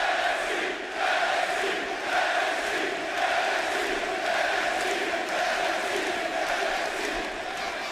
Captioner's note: crowd cheering; crowd chatter